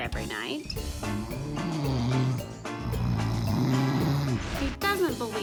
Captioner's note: man snoring